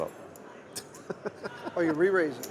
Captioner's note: laughing